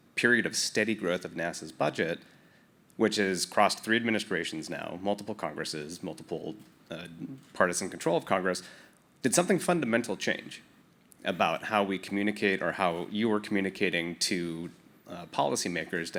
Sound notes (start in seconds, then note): none